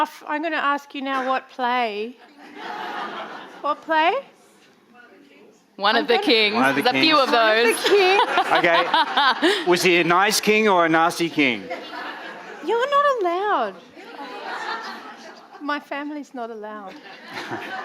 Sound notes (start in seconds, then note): 2.3 audience laughing; 11.4 audience laughing